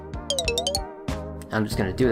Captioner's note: menu sound effects